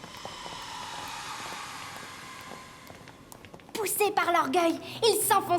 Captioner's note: applause